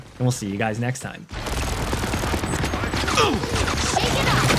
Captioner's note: gun firing; game character grunts